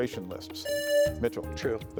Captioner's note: presses buzzer